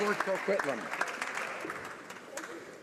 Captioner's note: applause